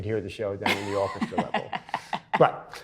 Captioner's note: laughs